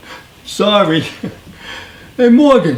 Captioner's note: laughing; laughs